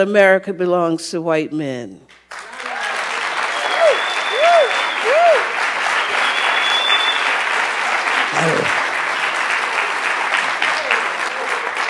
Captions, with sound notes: that America belongs to white men. (audience cheers) (audience applauds)